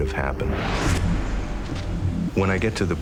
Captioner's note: whoosh